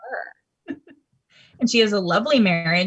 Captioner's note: laughing